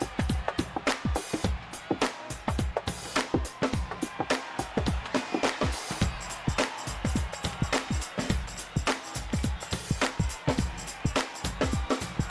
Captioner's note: crowd cheering